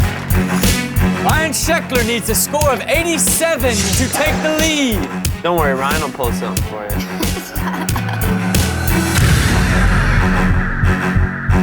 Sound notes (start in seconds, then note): 0.0 cheering; 0.3 intense music; 6.7 laughing; 8.8 intense music